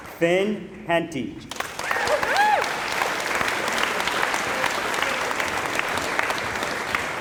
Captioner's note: applause